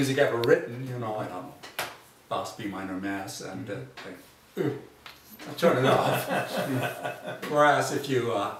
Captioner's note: laughs